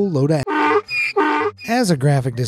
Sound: donkey braying

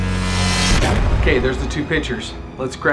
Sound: buzzes; bangs

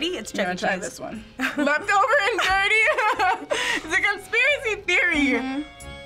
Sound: laughs

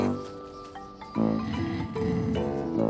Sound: gasp

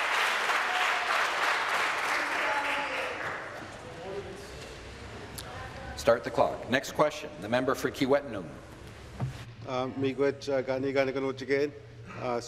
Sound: some Applause

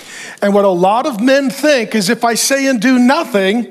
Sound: none

